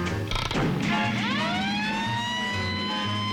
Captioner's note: siren